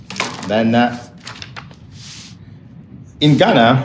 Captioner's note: pages rustling